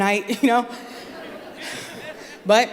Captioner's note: laughter